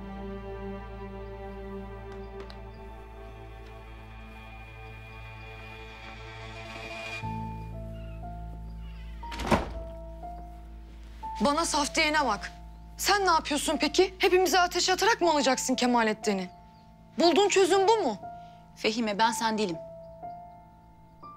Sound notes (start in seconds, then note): 9.2 the door closing sound